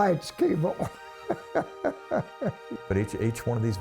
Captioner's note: laughs